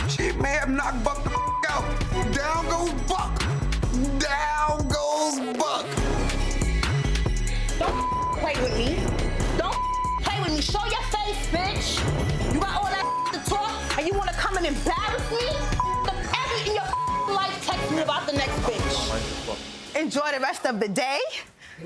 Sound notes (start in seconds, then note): 1.3 beep; 5.8 intense hip hop music; 7.8 beep; 12.8 beep; 15.7 beep